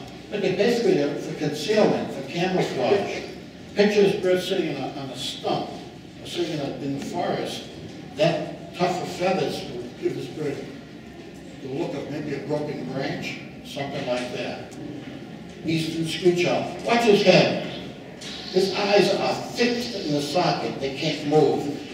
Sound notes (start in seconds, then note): 18.3 owl quietly screeching